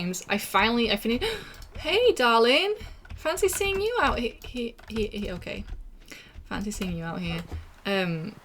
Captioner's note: gasp